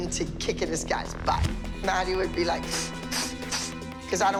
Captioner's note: making swooshing noises